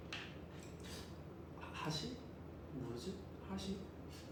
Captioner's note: speaking Japanese